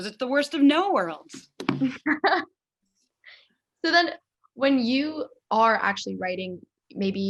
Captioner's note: laughs